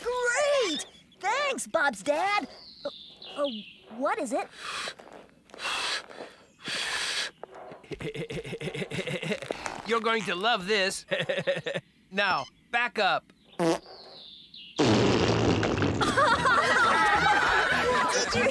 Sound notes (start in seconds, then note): 4.7 puff, Puff, Puff; 16.0 all Laughing